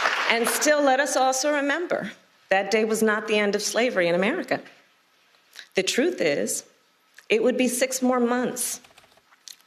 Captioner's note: applause